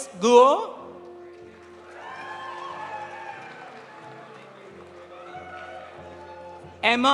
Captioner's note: audience applauding; audience cheering